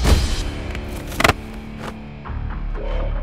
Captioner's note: Thud on ground